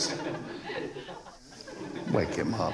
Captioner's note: students Laughing